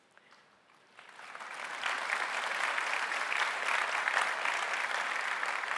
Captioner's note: audience applauding